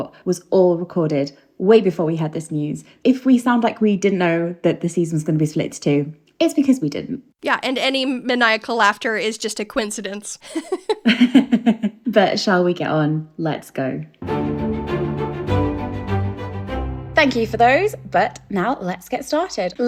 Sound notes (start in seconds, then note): 9.8 laughing; 14.2 upbeat music